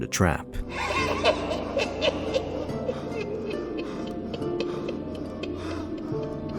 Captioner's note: evil Cackling